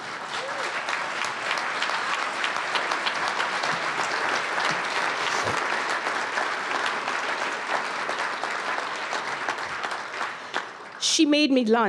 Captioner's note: audience applause